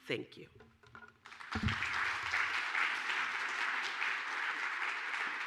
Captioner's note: applause